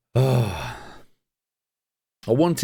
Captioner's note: sighs